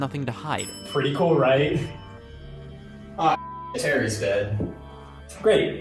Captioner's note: elevator ding